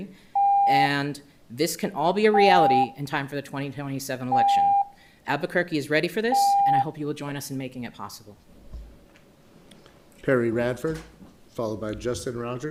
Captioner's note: loud beeping